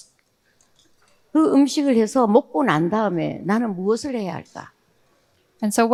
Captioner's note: speaking in foreign language